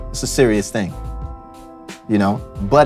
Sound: none

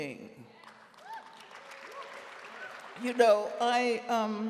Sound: audience applauding

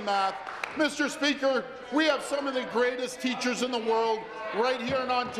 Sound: some Applause

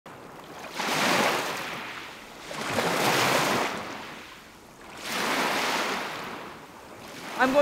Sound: sound of waves lapping on beach

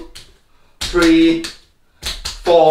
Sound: slapping

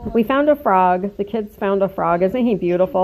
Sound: kids chatting

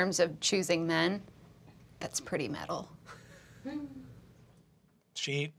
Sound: giggling

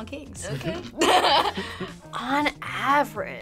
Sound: both laugh

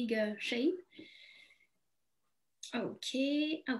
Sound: none

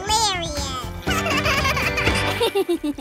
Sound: laughing

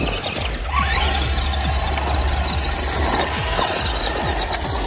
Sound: wheels squealing

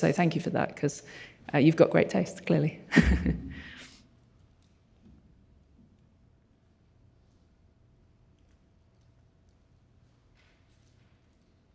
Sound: chuckles

